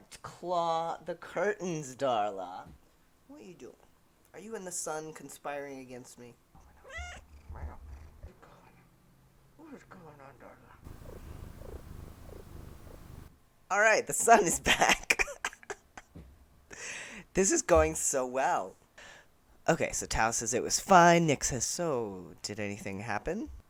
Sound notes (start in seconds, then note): 6.8 wreowr!; 10.8 purring